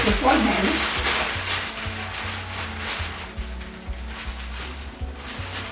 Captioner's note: rustling sound